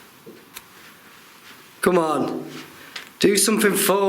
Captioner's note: none